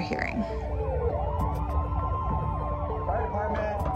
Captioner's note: sirens